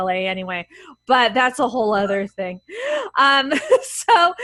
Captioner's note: laughs